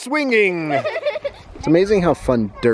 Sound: chuckles

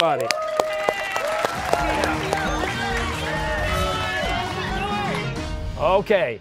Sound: cheers and applause

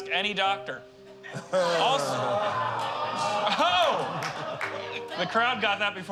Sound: all groaning

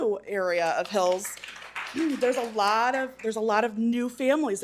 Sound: attendees applauding

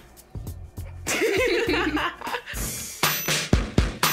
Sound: laughing

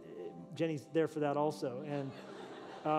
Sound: laughter

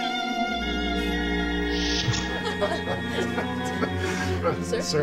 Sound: crewmen laugh

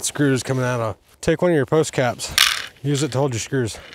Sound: screws rattling

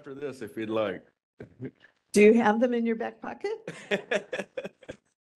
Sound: laughing

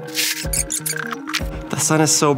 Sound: roll-up door squeaks

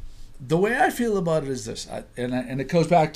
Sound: voiceover

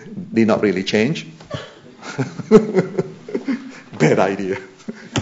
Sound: laughter

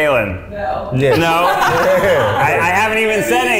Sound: people laugh

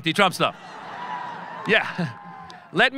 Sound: audience laughing

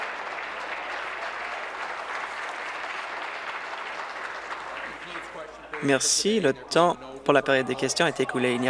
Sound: applause

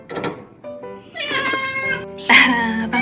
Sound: boo hoo!!!

